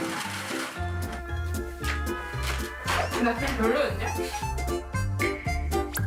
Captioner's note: Munch